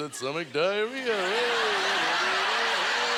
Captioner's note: audience laughter